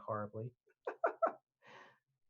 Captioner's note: laughs